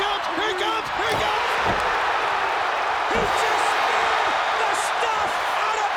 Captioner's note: crowd cheering